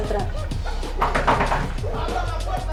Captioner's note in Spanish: Toque de puerta